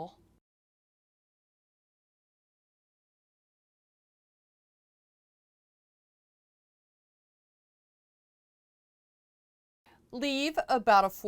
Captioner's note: no Sound Present